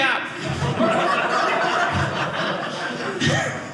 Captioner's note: audience laughing